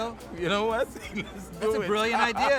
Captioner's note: laughs